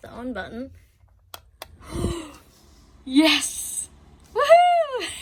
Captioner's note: fan button makes click noise; gasps loudly; giggles with extreme joy